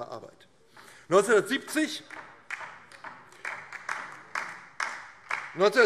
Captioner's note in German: Beifall DIE LINKE